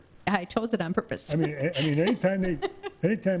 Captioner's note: laughs